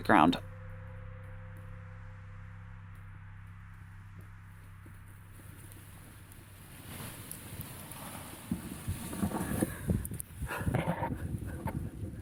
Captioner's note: hushed crying